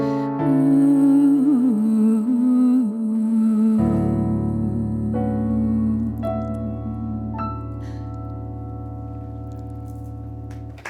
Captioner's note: applause